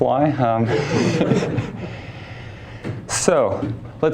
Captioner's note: laughter